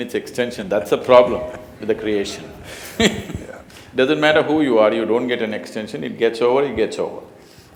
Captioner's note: laughs